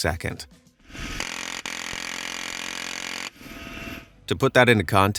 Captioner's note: guns blasting